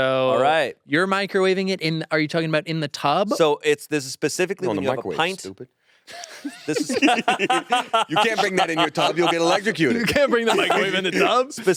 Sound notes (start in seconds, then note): 5.3 speaks faintly; 6.1 all laughing